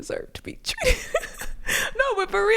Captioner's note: laughs